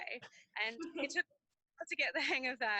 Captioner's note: laughing